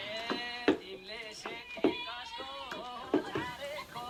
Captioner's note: tv show plays in nepalese language